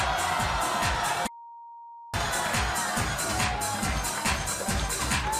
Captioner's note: bass-heavy music; audience jeering and swearing